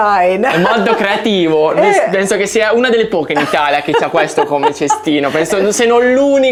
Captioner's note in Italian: risate